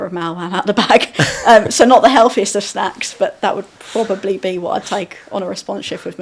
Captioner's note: laughing